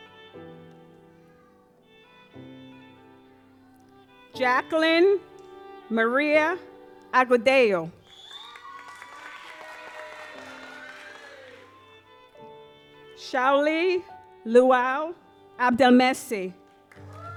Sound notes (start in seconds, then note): 8.0 audience applauds